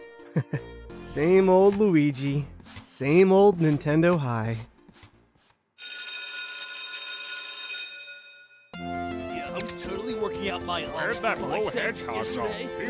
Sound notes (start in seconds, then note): 5.8 school bell ring; 8.7 student chatter